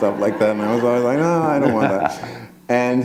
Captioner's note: laughter